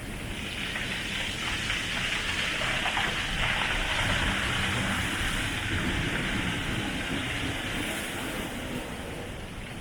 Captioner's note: rocks rolling around in surf sounds